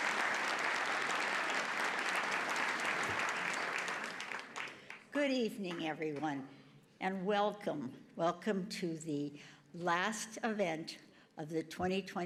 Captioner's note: applause